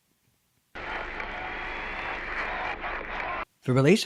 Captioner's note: radio static